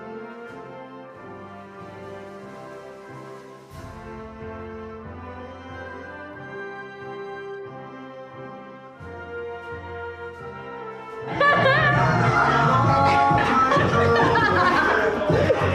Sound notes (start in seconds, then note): 0.3 slow music; 11.2 laughs; 12.9 upbeat music